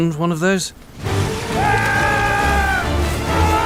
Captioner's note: jack yells